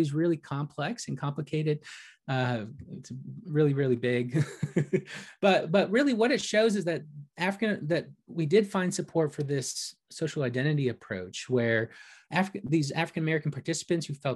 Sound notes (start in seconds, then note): 4.4 laughs